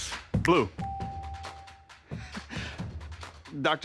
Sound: upbeat music; bell ringing

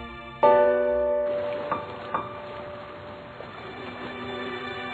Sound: river flowing

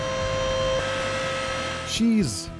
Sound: mechanical sounds

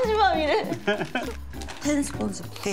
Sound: laughs

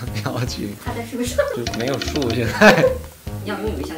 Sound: laugh

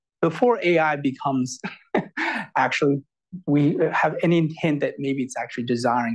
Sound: laughs

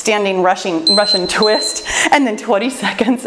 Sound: timer beeping

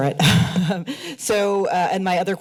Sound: chuckles

